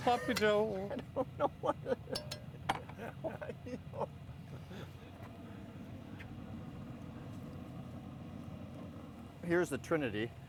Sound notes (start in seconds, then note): 0.0 man laughing; 2.1 spoon clanking against pot